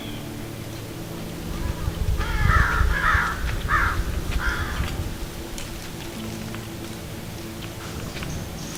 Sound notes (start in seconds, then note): 1.2 crows calling; 4.8 soft music